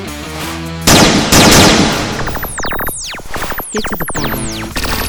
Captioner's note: bright rock music; guns blasting